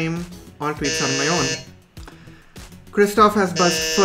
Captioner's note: buzzer buzzing